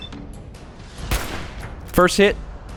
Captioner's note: blam!